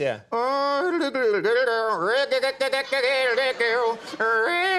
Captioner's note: imitating guitar sounds